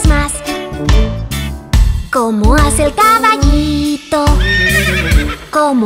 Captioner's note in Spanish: Sonido de relincho